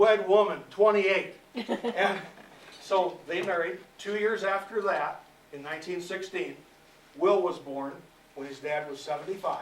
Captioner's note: laughter